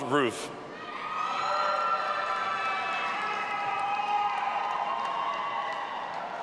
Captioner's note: audience applauding and cheering